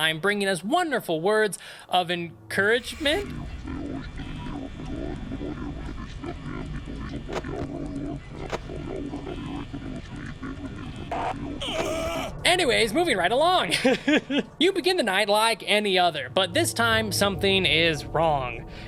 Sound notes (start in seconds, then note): 2.6 terrifying garbled language and animatronic screams